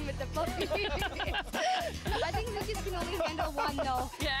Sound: laughter

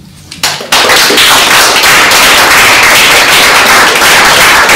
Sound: applause

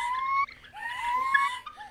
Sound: higher-pitched

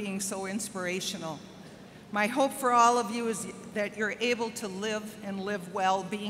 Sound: none

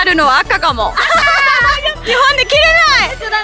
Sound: big laugther

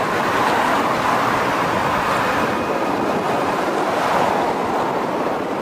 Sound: water rushing loudly

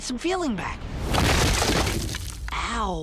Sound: crashing

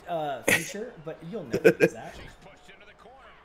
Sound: laugh

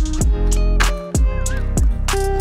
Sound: whistle

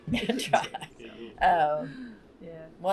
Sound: laughter

